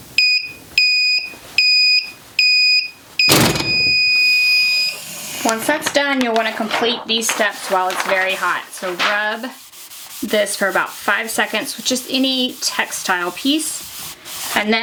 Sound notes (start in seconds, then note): 0.1 heat press beeping; 3.3 heat press thumping